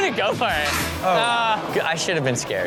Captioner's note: audience reacts